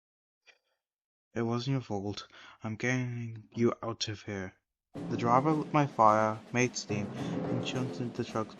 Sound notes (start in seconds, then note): 2.3 sigh